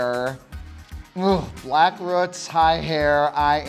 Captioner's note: grunts